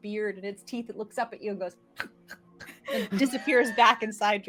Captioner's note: teeth clacking